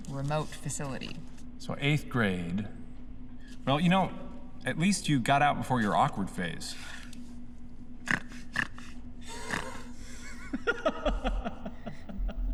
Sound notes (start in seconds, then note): 7.6 emphatic snorting; 9.3 laughing